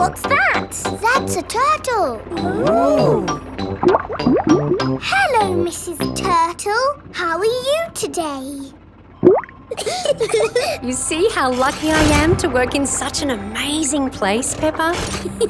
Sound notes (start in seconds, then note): 4.1 bubbling; 9.2 bubbles; 9.7 laughing